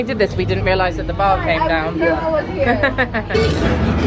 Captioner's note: laughing; dramatic music